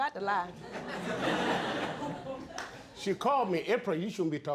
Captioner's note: all laughing